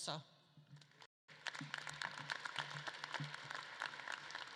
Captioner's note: audience claps